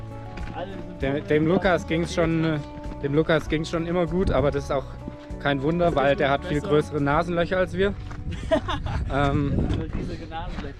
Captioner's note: laughs